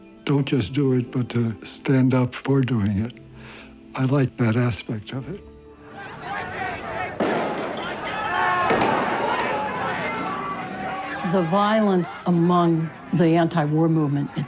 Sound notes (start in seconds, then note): 6.3 people yelling; 7.2 bang; 8.8 people screaming